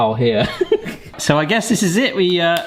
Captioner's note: giggles